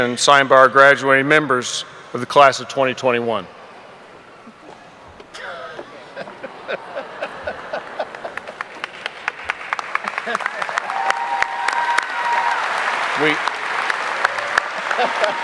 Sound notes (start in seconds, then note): 5.2 laughing; 9.0 audience applauding